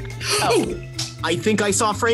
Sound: gasps

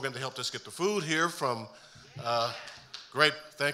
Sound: audience member cheering

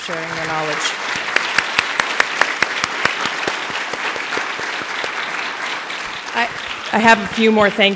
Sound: applause

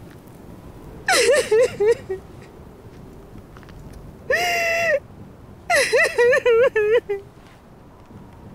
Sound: sobbing

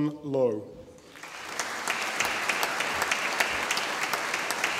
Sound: audience applauding

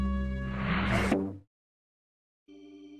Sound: thwunk

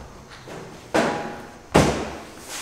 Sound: thud

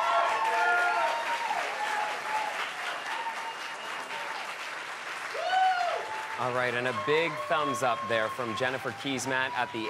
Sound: cheers and Applause

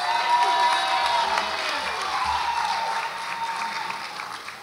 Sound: audience applauds and cheers

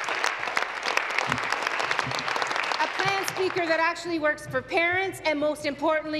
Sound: applause

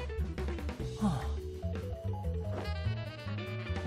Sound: sigh

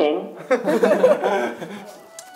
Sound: laughing

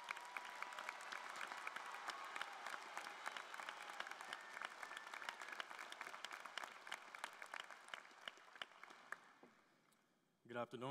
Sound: applause

